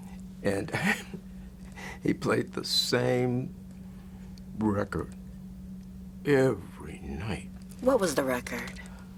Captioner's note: laughs